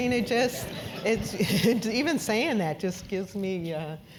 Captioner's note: laugh